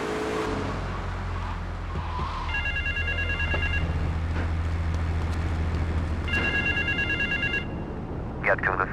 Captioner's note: car engine roaring; phone ringing